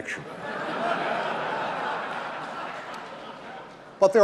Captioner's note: audience laughing